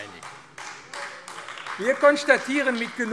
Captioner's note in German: Beifall AfD